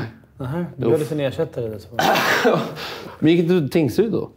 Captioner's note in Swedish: skratt